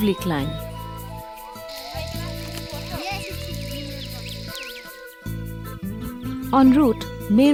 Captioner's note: birds chirpping; indistinct conversation; soft gentle music